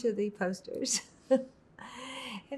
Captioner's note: laughing